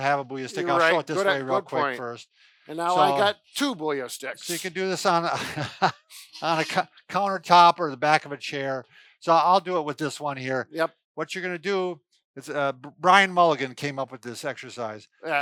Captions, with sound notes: have a Booyah stick, - You're right, good point. - I'll show it this way real quick first. - And now I got two Booyah sticks. - So you can do this on a (chuckles) on a countertop or the back of a chair. So I'll do it with this one here. What you're going to do, Brian Mulligan came up with this exercise.